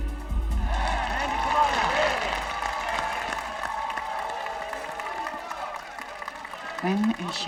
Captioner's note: audience applauding